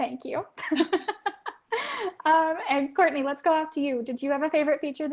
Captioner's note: laugh